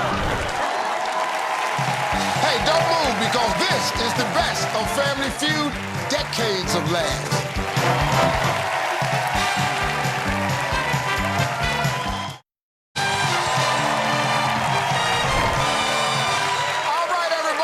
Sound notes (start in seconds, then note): 0.9 cheers and applause; 8.6 cheers and applause